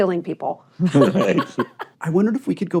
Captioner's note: laughter